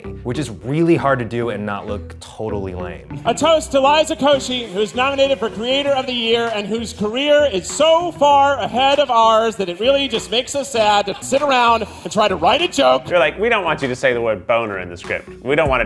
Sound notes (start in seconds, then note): none